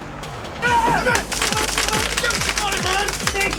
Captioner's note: exciting beat music; men yelling